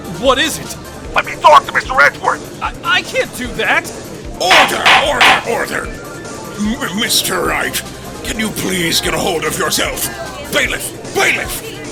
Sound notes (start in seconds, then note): 0.2 gallery chattering; 4.4 gallery chattering, gavel slams!; 4.4 gallery chattering; 8.8 gallery chattering; 10.0 gallery chattering, "guilty" chants